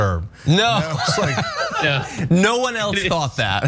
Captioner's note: laugh